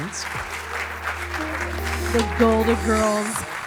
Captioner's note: audience applauding